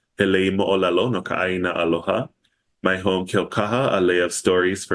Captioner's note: foreign language